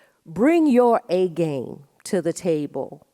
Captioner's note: none